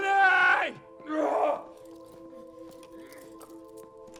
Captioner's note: yells